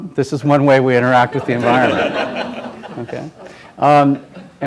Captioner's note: laughter